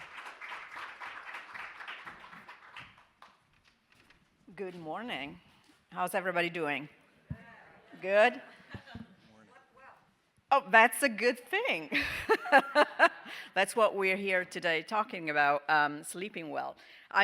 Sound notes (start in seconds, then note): 0.0 audience clapping; 3.4 panelists shuffling; 9.5 audience laughing; 12.9 laughing